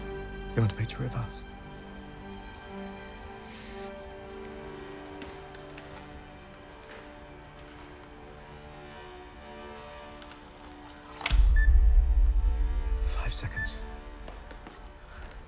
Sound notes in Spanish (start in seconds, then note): 11.3 la cámara emite un pitido